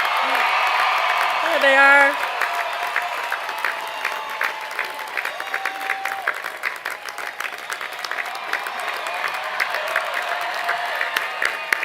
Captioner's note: cheering